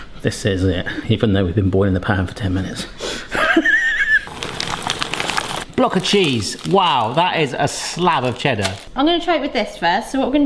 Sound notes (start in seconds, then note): 3.6 laughs